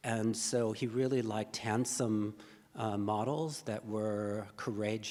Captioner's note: none